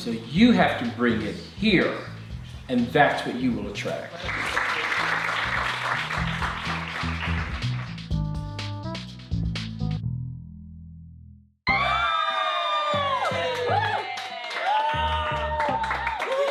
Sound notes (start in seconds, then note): 4.1 applause; 11.6 cheers, screams, applause